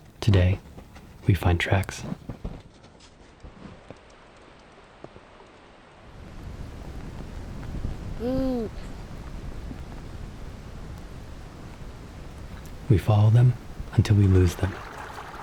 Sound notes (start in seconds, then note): 8.2 baby coos; 13.9 water trickling